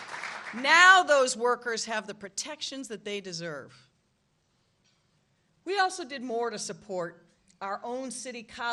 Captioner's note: applause